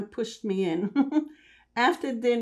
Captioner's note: laughing